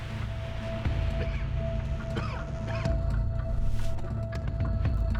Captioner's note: coughing